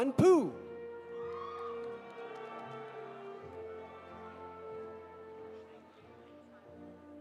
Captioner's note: audience applauding; audience cheering